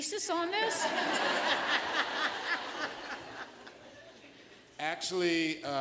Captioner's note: laughter